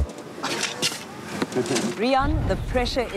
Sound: scraping soil

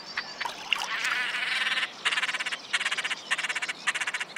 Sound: cackling

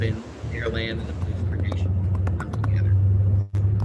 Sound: audio breaks up

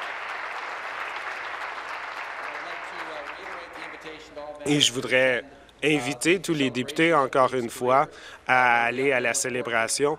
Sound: applause

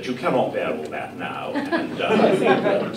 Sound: laughter

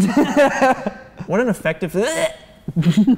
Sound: gagging noise

